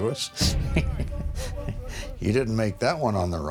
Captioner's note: laughs